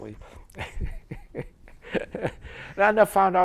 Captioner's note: laughter